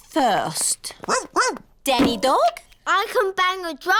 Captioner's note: barks